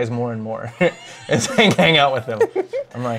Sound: laughs

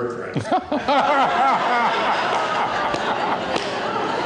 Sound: laughter

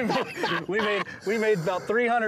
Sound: laughing

